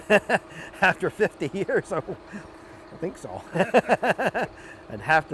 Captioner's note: laughing